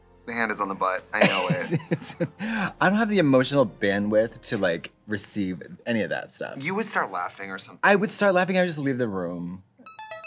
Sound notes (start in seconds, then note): 1.2 Katya laughs; 10.0 ringing sound